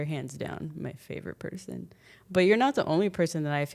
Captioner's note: none